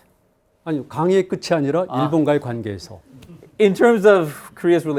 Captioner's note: speaking in Korean